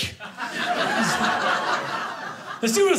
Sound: audience laughing

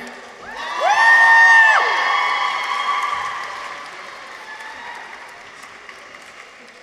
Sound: people cheer; audience applauds

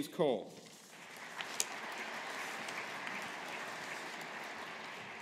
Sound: audience applauding

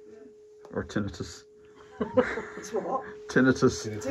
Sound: laugh

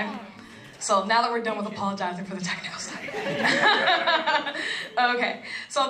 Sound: laugh

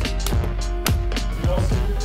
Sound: clap

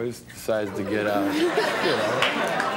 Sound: audience laughing

